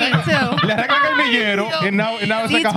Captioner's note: speaking Spanish